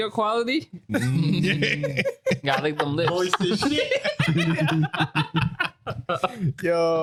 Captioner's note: laughing; speaking In Foreign Language